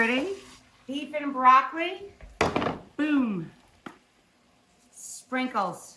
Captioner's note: pan clangs